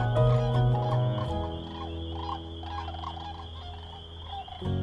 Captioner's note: cranes bugling